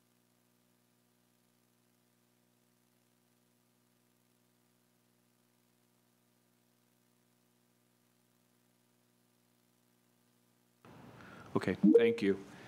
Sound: silence

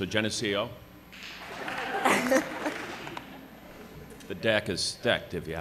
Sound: applause

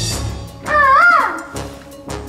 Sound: makes peacock call

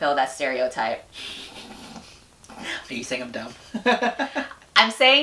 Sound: laughs

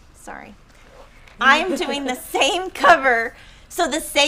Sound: laughing

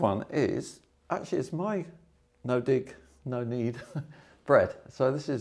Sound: chuckles

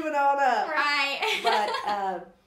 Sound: laughs

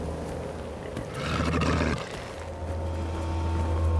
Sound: growling

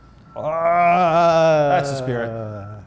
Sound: screams weakly

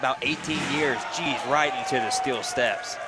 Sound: crowd groaning

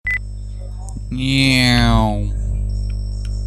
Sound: flying plane sounds

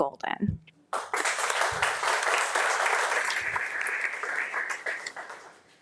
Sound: audience applauding

